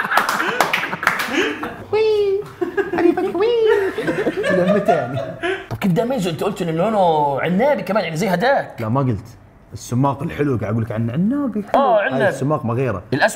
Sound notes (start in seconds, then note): 2.4 laughs